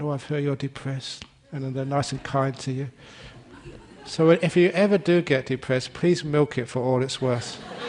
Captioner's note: laughter; laughter